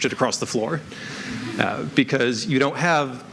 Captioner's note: chuckling